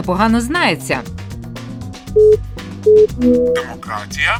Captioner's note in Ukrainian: Звук як при гучному зв’язку на смартфоні